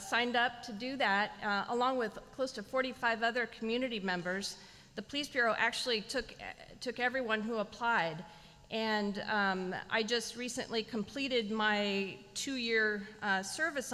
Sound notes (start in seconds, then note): none